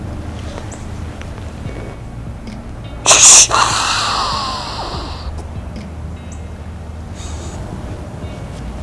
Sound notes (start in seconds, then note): 3.0 sound or snort-wheeze call; 6.2 distant road noise, soft music